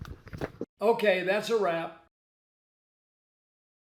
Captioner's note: voiceover